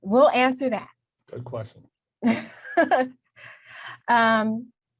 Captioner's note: laughs